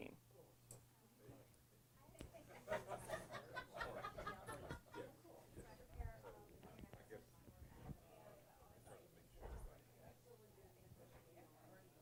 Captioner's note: background Discussion